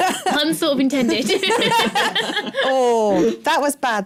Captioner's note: laughter